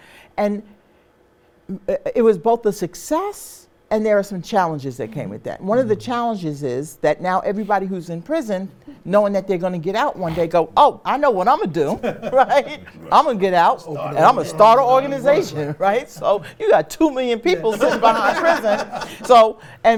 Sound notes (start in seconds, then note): 11.6 laughs; 17.5 laughter